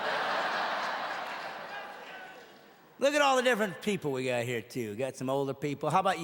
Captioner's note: audience laughing